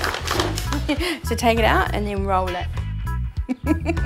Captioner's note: laughter